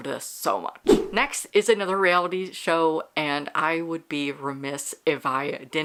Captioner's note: whoosh